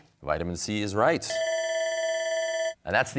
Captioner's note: bell ringing